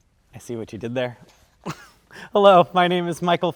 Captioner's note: laughs